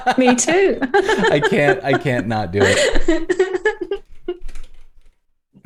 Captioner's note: laughter